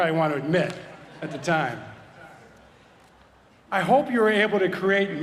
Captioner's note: laugh